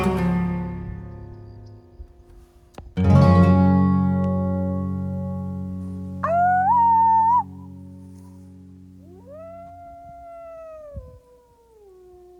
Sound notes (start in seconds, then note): 3.0 crickets chirping; 6.2 howling; 9.0 wolves howling